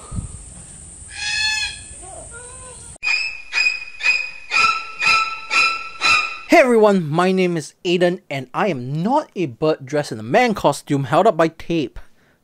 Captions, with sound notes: [Bird caw] [Scary music] Hey everyone, my name is Aden, and I am not a bird dressed in a man costume held up by tape.